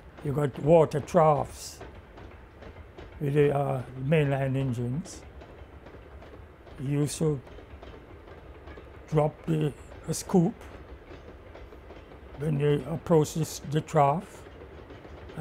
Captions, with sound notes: - You've got water troughs with the mainline engines. (train chugging) You used to drop the scoop when it approaches the trough,